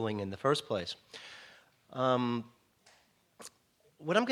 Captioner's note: <i>Brief pause</i>